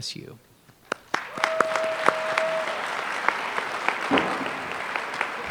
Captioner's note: applause